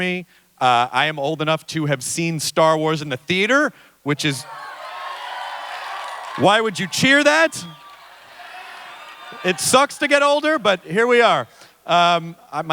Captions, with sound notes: I am old enough to have seen Star Wars in the theatre, which is-- [Cheering in crowd] Why would you cheer that. It sucks to get older, but here we are.